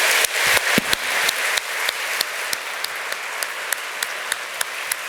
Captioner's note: audience applauds